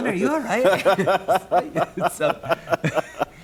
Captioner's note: laughs